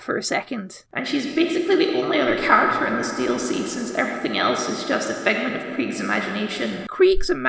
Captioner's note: echo Effect